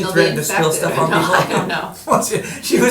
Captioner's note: laughing